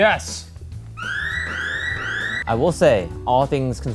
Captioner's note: alarm rings